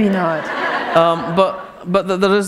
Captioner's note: laughter